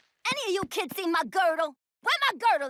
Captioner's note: high-pitched voice